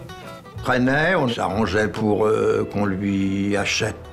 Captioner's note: French spoken audio